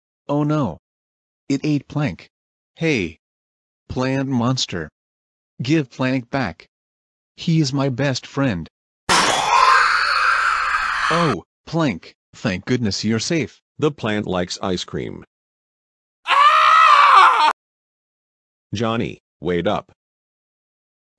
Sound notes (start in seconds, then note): 9.1 carnivorous plant vomiting; 16.2 Jonny screaming